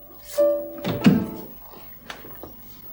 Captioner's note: door shuts, music stops